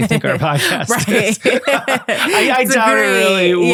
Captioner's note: laughing